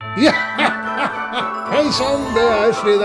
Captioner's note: Santa Claus laughs